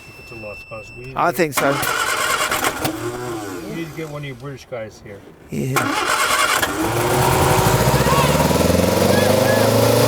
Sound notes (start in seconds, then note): 0.0 electronic beeping; 6.0 engine rumbling